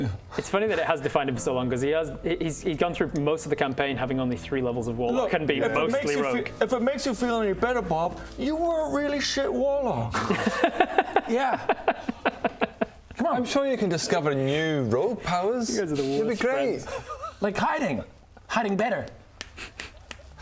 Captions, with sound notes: It's funny that it has defined him for so long cos he has he's gone through most of the campaign having only 3 levels of warlock - Look, if it makes you feel any better Bob - and been mostly rogue you were a really shit warlock yeah *comforting giggles* come on I'm sure you can discover new rogue powers You guys are the worst friends you'll be great like hiding hiding better